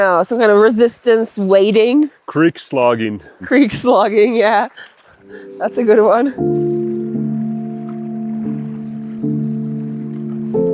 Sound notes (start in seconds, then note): 4.8 water trickles; 5.1 laughs; 7.2 calm music